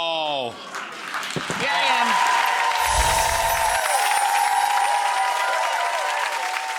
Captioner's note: twinkling music; audience cheering